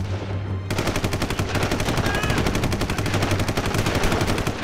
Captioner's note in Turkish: Silah sesleri